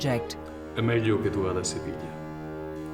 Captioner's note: speaking Italian